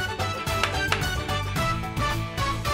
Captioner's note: clapping